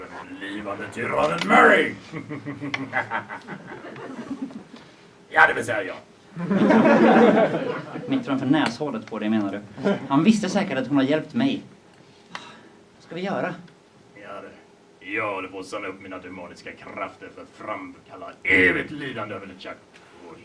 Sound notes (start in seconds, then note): 6.4 audience laughs; 12.7 sighs